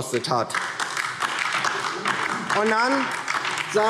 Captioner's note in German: Beifall DIE LINKE